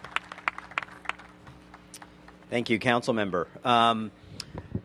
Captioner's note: applause